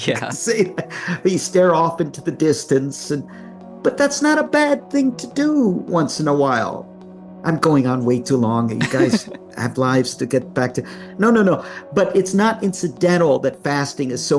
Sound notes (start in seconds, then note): 8.8 chuckles